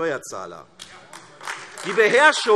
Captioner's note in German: Beifall AfD